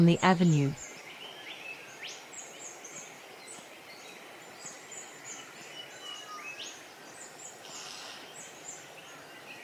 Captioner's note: birds sounds and chirps